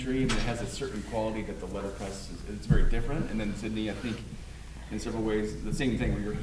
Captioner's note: none